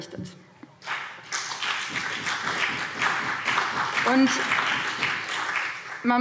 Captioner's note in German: Beifall BÜNDNIS 90/DIE GRÜNEN und CDU